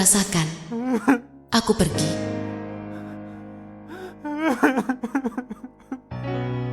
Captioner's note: crying